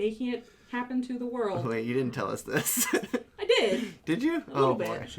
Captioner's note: laughs nervously